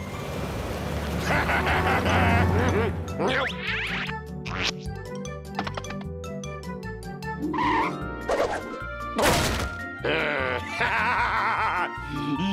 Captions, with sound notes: HA HA HA HA HA! (crash) THERE! HA HA HA HA!